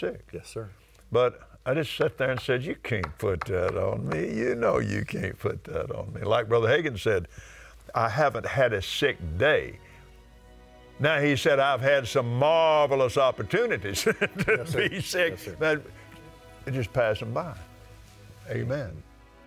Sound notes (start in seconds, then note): 13.9 laughing